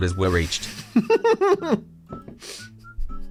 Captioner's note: laughs